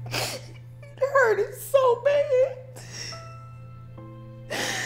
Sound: crying

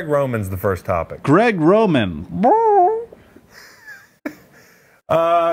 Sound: squawks

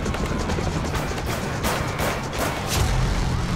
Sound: metallic banging

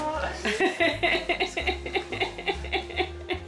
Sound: laughing

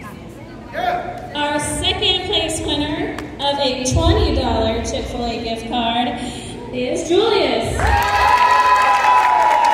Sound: cheering

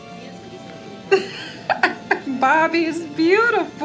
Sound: laughing

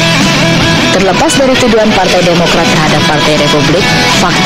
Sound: speaking indonesian

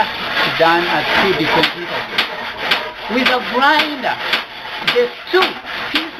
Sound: sander

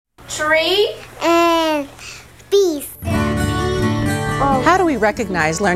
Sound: children speaking

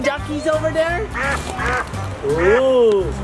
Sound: ducks quack

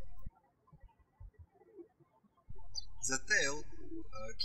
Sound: birds chirping

